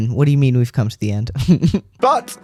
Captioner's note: laugh